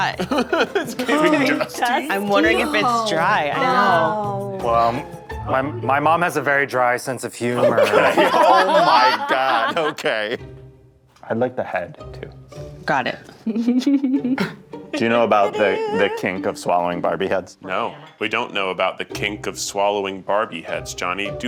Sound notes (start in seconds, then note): 0.1 laughs; 0.2 laughing; 7.5 all laughing; 14.9 giggling